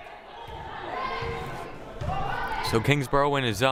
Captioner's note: players shouting